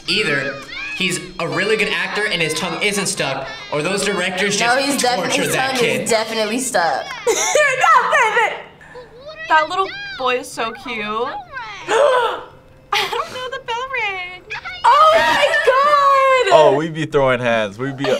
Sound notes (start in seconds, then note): 7.7 laughs; 11.8 gasps